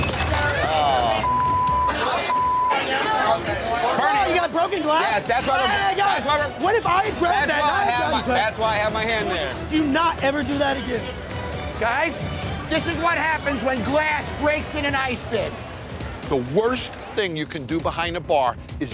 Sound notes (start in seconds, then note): 0.2 glass shattering; 1.2 beep